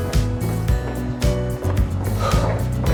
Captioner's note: steadying breath